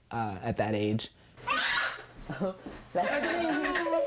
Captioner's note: whining